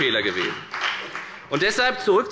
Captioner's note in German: Beifall bei der FDP